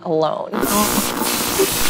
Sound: static crackles

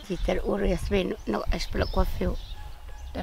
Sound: speaking local language

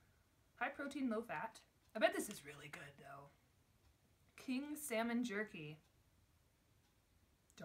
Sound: none

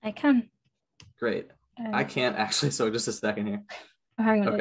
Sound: chuckles

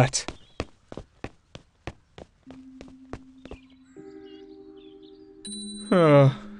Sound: steps walking off until bell rings

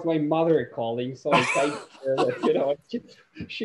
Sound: laughing

